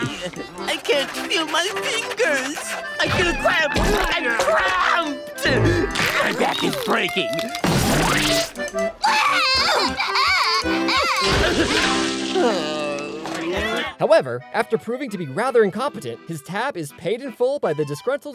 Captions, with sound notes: I can't feel my fingers. I got a cramp in my cramp. My back is breaking. [cracking] [crying] [groaning] However, after proving to be rather incompetent, his tab is paid in full by the disgruntled customers